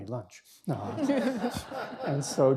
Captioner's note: laughter